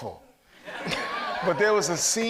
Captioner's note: audience laughs